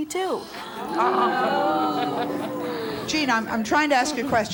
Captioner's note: audience exclaims